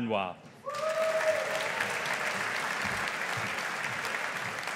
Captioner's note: audience applauding